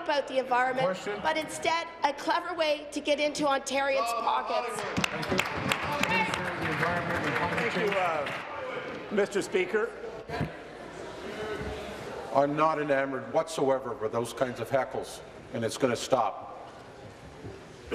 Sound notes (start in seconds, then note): 9.2 applause